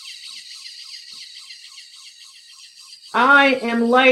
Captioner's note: machine whirring